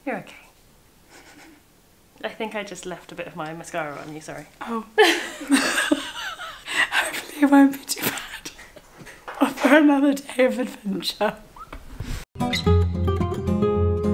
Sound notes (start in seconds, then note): 1.0 chuckles; 4.9 both laugh